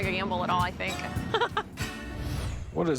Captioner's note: laughs